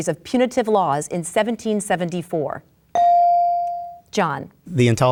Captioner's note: bell dings